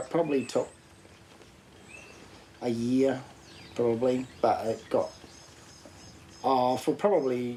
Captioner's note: none